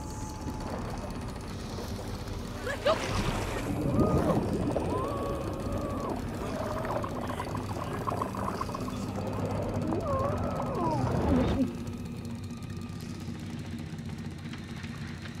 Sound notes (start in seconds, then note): 3.6 muffled screaming